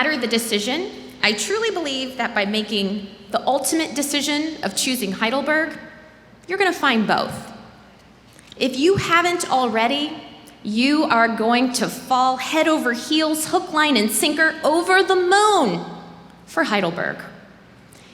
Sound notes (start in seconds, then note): none